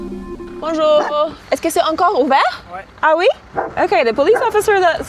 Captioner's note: speaking in a foreign language